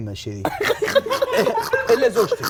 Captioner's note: laughs